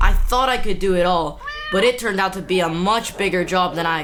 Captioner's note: cat meows